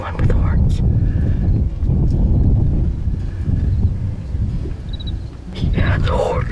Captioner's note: wind blowing